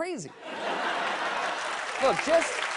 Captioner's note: laughter